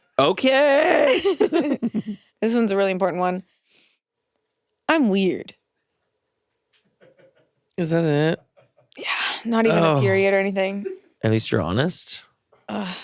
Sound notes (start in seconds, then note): 1.1 both laugh; 7.3 crew laughs